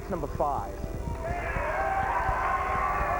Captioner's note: cheers and applause